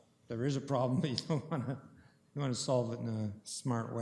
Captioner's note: chuckling